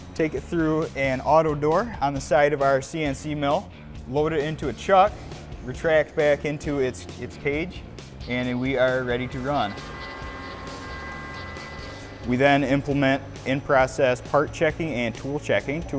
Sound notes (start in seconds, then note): 9.8 machine grinding